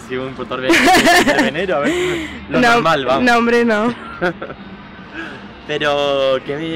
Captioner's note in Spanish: risas